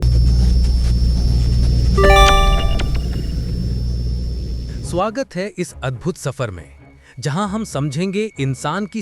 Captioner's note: excited tone; intrigued tone